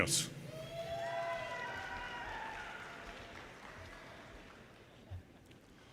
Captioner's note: audience cheers and applause